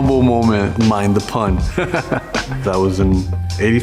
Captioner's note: laughing